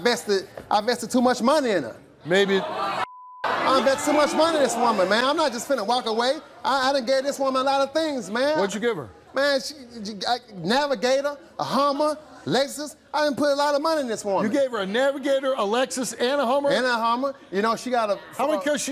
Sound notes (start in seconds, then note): 3.5 audience yells angrily